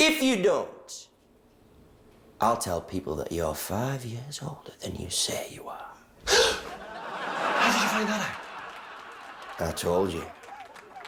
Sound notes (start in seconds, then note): 6.2 gasps